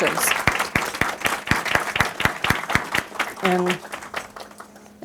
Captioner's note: clapping